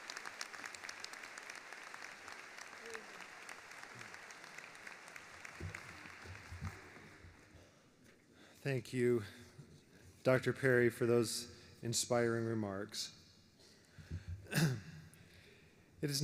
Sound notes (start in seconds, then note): 2.7 applause